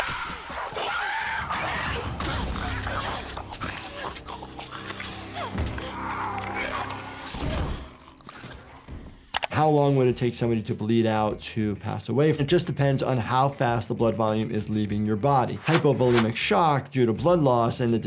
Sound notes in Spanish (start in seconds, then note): 0.0 chillidos infectados; 2.9 Ellie gruñendo